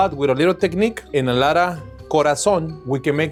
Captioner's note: speaking in foreign language